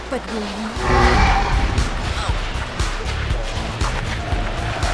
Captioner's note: growling